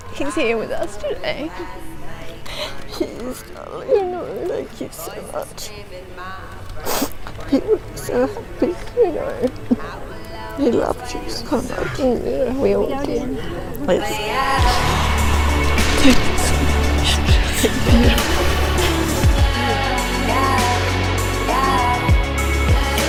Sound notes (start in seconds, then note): 2.4 sniffles; 11.3 whimpering